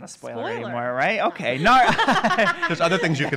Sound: laughing

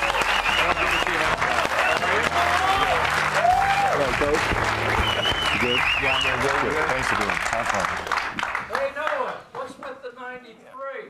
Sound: cheers and applause

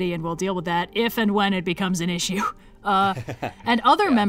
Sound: laughs

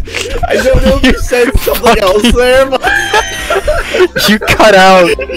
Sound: wheeze

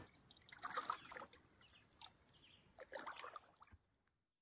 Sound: gentle water waves

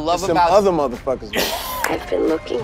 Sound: Dave laughing

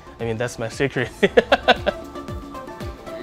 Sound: chuckles

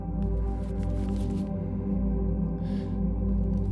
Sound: crushing paper

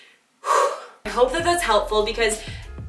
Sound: whew

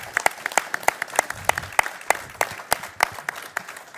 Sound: applause

